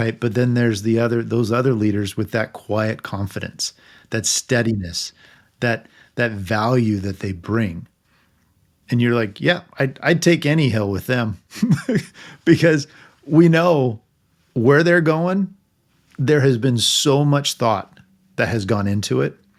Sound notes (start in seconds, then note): 11.5 laughing